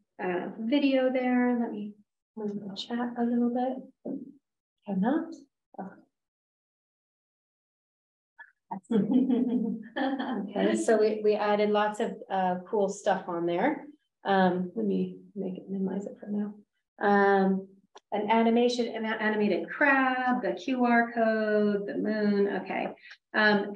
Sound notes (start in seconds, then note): 8.9 laughter